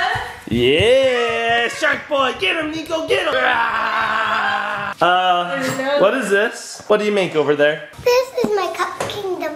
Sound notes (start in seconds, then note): 0.0 cheers; 5.0 growls